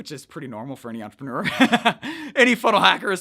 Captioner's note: laughs